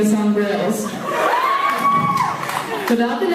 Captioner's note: laughs